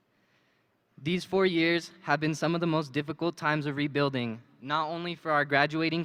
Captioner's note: none